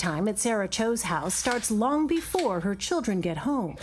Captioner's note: none